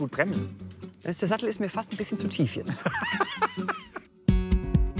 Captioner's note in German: lacht